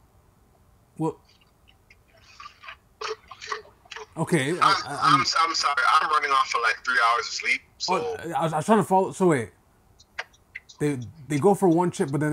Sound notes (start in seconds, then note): 3.0 laughing